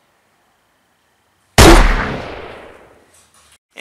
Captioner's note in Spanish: disparo